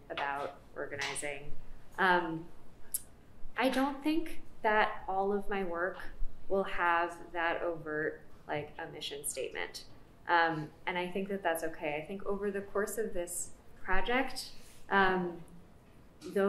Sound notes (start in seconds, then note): none